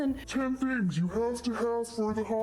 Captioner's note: slow voice